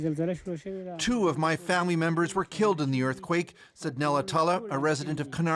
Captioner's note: speaking alternate language